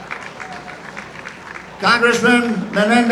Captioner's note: applause